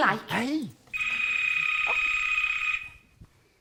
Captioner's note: phone rings